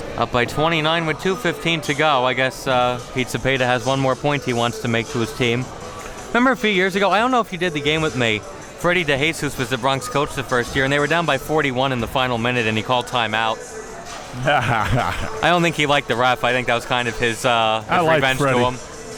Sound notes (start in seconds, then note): 14.2 laughing